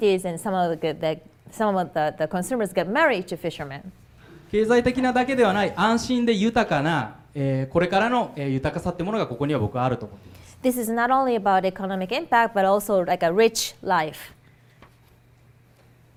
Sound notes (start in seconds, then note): 4.8 speaking foreign language